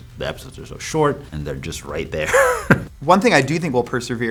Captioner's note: chuckles